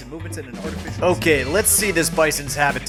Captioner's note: voice fades away